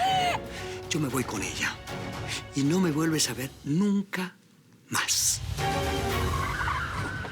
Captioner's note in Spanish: Risas